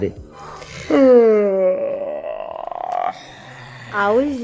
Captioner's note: yawn